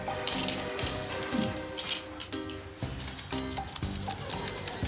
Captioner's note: audience tittering; upbeat music; dog sniffing loudly; dog collar rattling